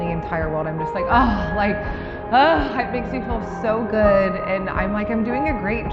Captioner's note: sighs